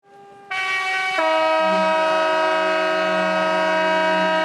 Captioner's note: boat horns blowing